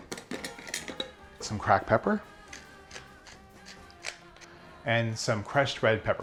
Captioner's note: pepper grating